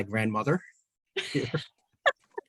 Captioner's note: laughter